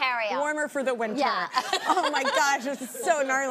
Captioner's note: laughs